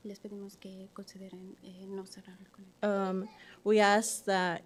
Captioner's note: speaking softly in Spanish